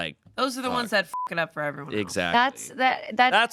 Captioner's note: beep